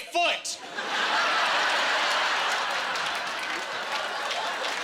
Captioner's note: laughing